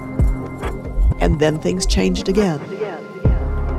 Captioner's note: echoing